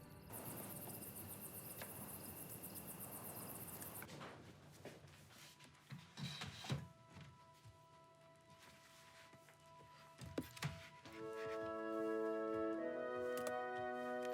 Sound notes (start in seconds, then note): 6.2 drawer thudding; 10.6 pensive music